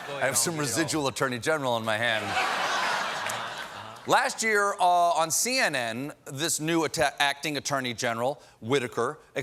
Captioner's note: laughter